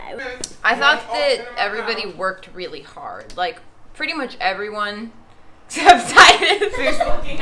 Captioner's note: laughter